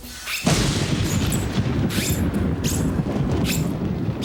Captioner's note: loud thunder